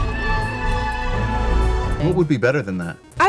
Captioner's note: whale sounds